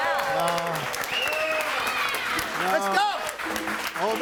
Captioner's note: everyone applauding